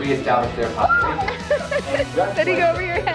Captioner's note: crowd screaming drowns speaker